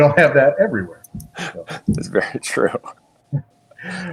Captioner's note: laughs